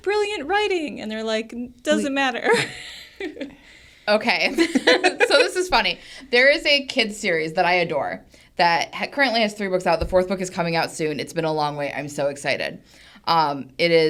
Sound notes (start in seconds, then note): 4.5 laughs